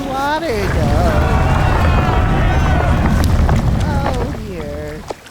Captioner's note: soldiers shouting